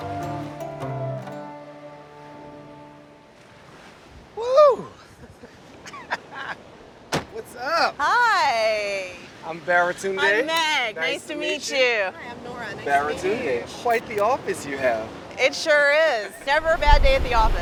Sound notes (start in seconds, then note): 5.8 laughs quickly